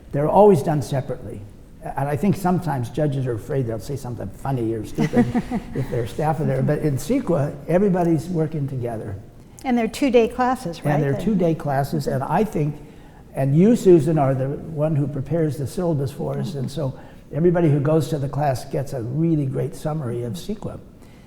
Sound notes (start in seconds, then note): 4.9 laughs